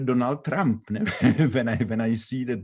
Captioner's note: laughing